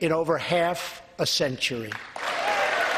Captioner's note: applause